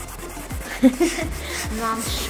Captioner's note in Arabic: يضحك